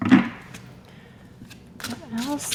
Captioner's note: shuffling